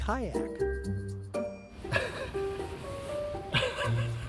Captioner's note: laughs